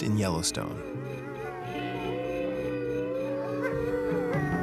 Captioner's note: wolves howling